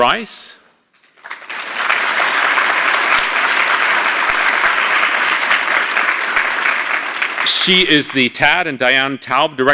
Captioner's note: applause